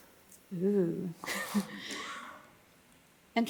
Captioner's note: laughs